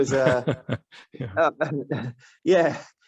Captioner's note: laugh